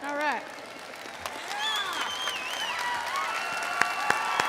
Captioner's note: audience cheering